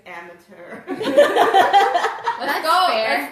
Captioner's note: laughs